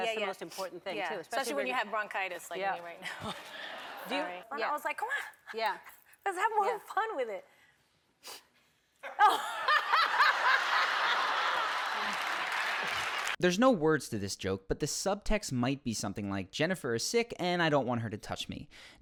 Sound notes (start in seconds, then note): 3.1 audience laughs; 9.0 laughs; 10.7 audience laughs